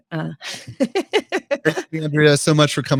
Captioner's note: laughing